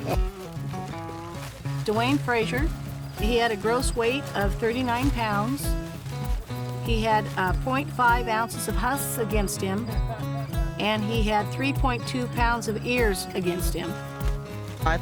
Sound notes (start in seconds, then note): 0.7 companion laughs